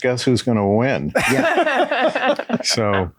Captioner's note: all laughing